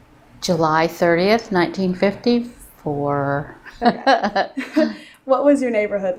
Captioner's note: laughing